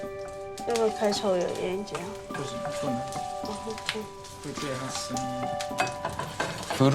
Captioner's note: stove clicking; both speaking foreign language